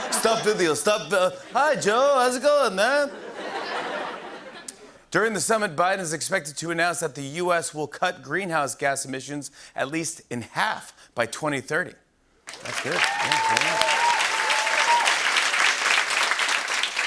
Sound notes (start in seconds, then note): 3.0 laughter; 12.4 cheers and applause